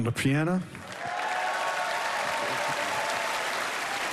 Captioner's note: cheering and applause